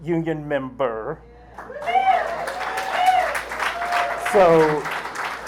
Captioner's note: applause